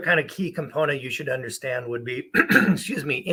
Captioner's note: clears throat